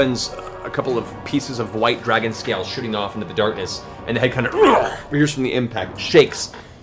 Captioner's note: grunts